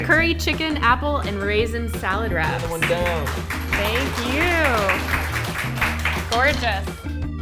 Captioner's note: clapping